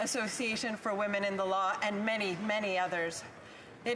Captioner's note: speaking French